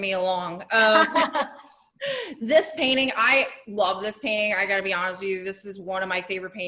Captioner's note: laughs